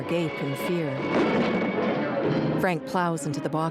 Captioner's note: thud